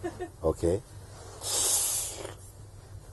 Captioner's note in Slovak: Zvuk vtiahnutia